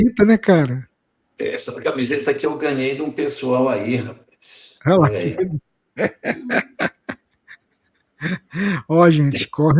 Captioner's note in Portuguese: risadas